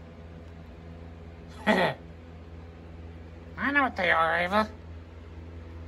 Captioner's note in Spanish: risas